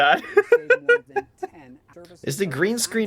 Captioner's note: laughing